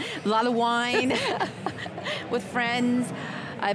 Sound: the ladies laugh

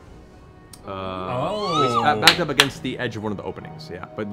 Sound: group excitedly exclaims

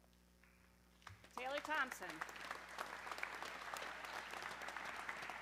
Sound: audience clapping

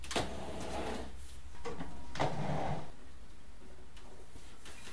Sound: sound of moving chair

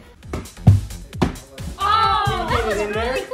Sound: ball rattling

